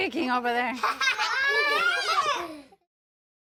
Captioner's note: children’s laughter